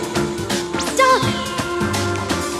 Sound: spider whistling

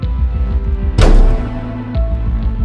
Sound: dramatic hit

